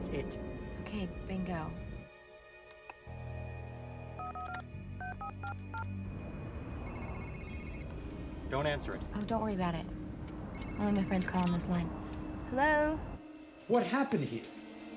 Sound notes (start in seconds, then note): 3.3 dial tone drones; 3.3 phone dials; 6.8 phone rings